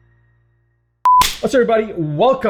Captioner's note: beep